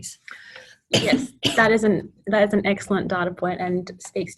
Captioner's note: coughs